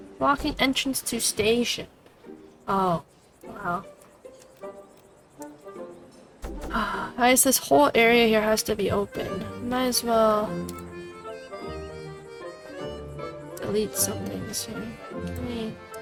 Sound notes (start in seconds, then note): 6.6 sigh